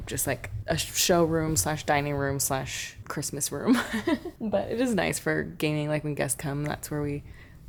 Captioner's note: laughter